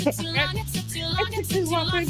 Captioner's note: laughing